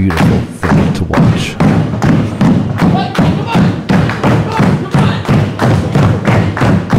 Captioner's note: audience cheering